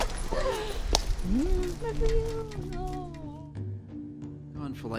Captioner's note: Claire humming